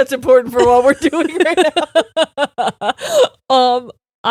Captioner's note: both laughing